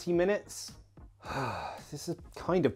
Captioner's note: instructor sighs